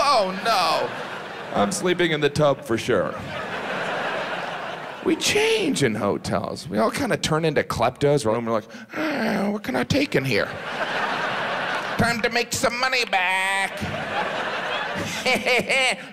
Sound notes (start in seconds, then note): 3.6 audience laughs; 10.3 audience laughs; 15.0 Jim cackles